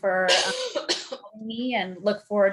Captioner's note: panelist coughing